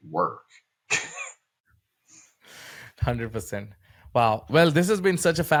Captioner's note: laughs